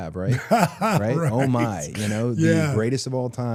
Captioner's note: laughs